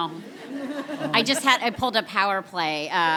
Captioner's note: people laugh